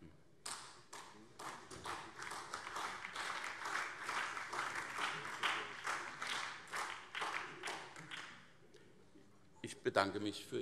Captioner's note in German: Beifall CDU, SPD und BÜNDNIS 90/DIE GRÜNEN